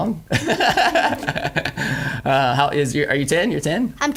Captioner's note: laughing